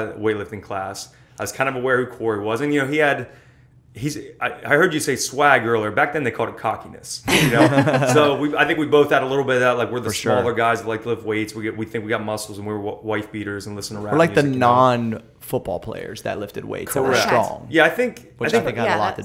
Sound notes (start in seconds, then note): 7.3 laughter